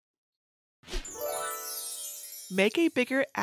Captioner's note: gentle tinkling